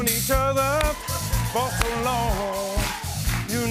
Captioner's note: cheering, rhythmic clapping